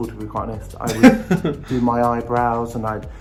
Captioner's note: laughs